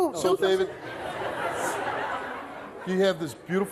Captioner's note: audience laughing